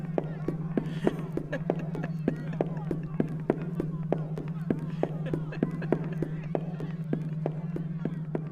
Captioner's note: fading laughter